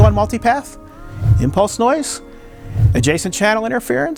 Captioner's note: text swishing